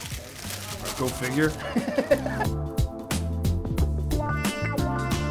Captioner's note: laughs